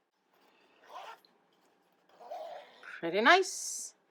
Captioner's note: zipper unzipping